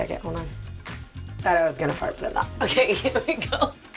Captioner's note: laughing